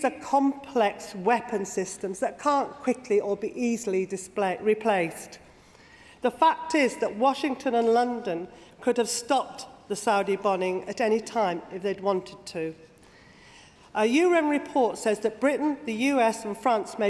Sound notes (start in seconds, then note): none